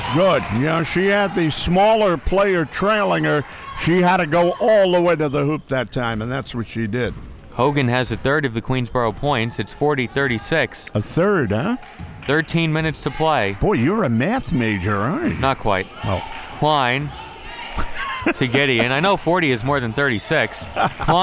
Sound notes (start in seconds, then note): 17.6 laughs